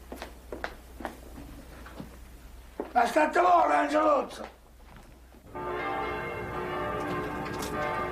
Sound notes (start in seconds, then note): 3.6 speaking foreign language